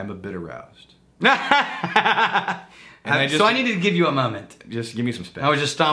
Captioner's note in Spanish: Riéndose